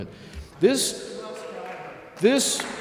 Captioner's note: audience applauds